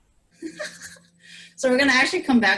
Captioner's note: laughs